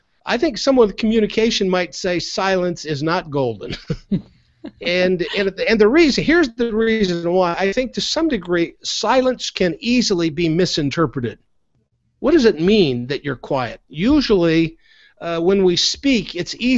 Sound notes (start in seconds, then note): 3.4 chuckles; 4.6 laughs